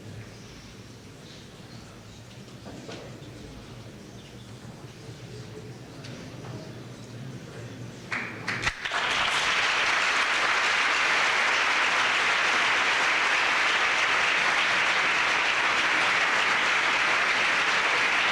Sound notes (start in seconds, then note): 8.5 applause